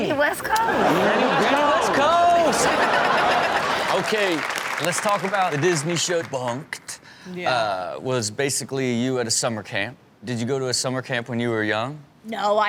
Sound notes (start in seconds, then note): 3.3 applause